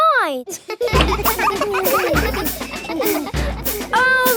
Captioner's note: children laughing